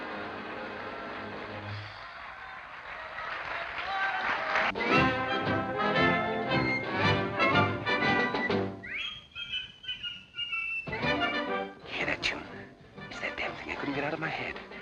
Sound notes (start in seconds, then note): 1.7 applause, cheering; 8.0 whistling